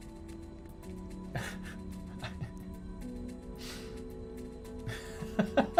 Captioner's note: chuckling; continues chuckling